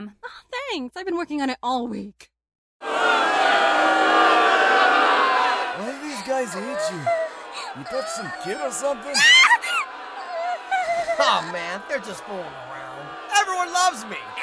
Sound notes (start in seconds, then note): 6.0 whimpering; 9.3 whimper cresendo